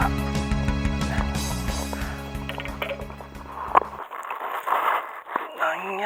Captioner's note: tears